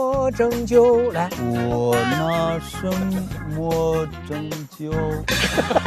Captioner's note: shakily